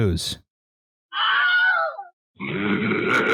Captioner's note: ungodly shriek; monstrous laughter